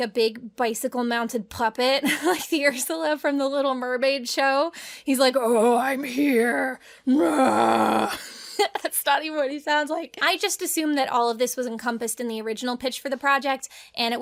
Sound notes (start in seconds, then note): 7.0 groaning; 8.7 laughing